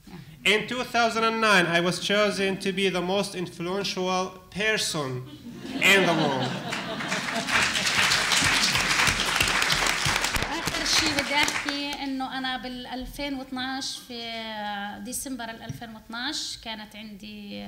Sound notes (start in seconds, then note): 6.6 applause; 10.2 speaking arabic